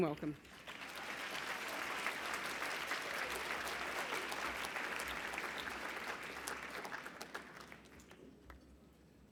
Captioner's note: applause